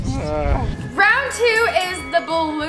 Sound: sighs; fight bell

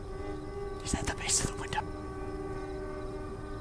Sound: whispers

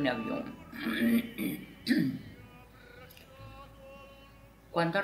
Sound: clears throat

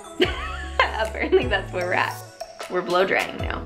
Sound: laughs

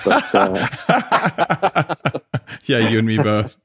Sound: laughing

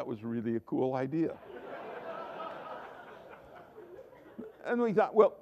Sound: laughter

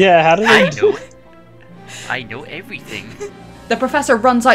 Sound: professor voice

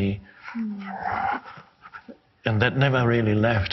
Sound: soft growl

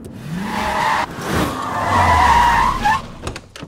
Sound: brakes squeak

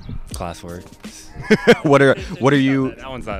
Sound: laughing

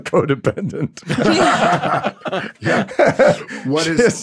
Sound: laughs

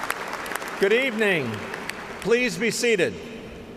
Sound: applause

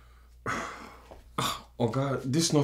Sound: Nosa sighs

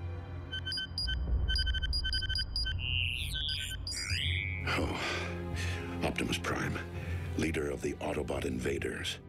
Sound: beeping

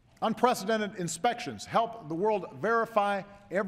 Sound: none

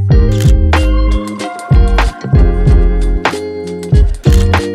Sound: camera shutter clicks

